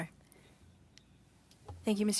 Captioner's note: speaking French